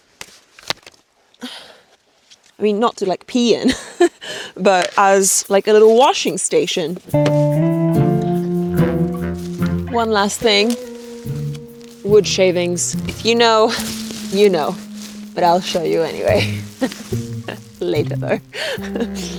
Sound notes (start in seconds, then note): 3.7 person laughing; 7.9 upbeat music